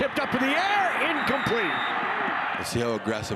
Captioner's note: referee blows whistle